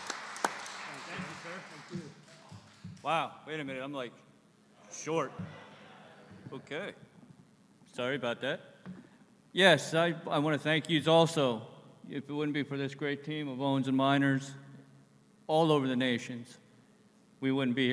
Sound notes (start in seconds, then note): 0.0 applause; 5.6 laughter